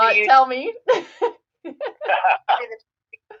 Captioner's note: laugh